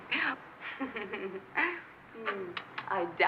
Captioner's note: laughing